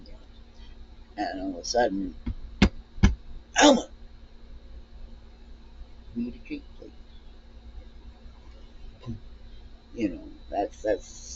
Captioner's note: thump, thump